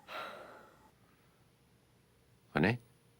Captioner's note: Rene sighs